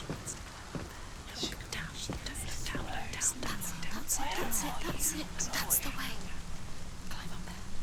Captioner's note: whispering; whisper